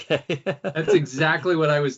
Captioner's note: laughing